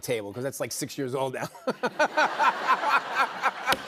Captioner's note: laughter